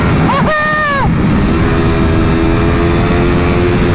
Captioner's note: screams of Adrenaline rush